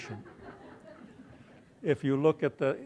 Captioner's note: laughter